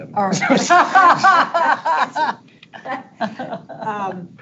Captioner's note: board members laughing